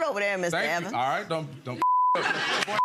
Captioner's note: beep